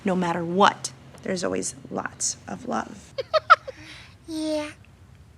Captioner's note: laughing